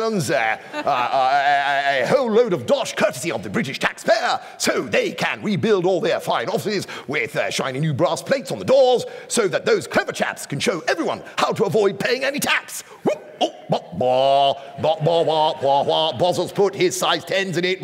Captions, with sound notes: a whole load of dosh courtesy of the British taxpayer so they can rebuild all their fine offices with shiny new brass plates on the doors so that those clever chaps can show everyone how to avoid paying any tax. [NERVOUS BLUSTER] Bozza's put his size 10s in it!